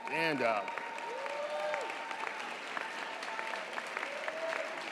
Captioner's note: audience applauds